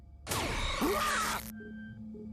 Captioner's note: screaming